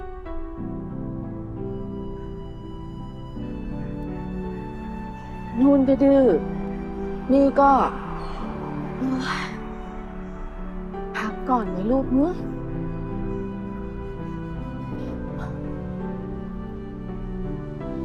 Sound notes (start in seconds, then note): 8.9 sigh